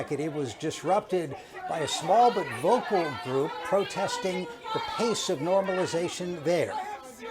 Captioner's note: shauting